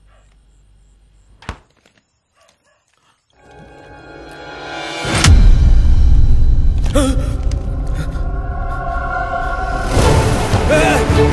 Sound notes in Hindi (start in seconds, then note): 5.1 थड्स; 6.8 हांफते हुए